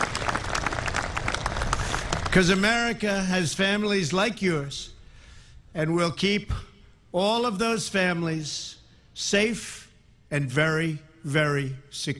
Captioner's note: applause